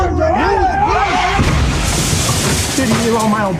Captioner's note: crash